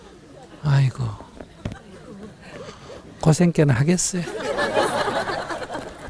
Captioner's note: audience Laughter; audience Laughter